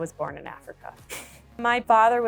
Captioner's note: chuckles